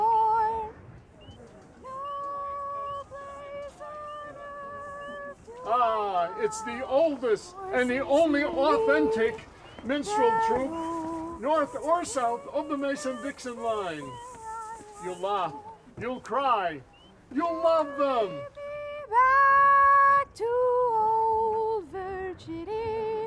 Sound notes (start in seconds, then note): 4.0 muffled background chattering